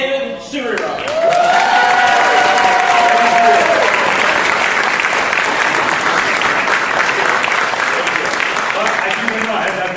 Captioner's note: applause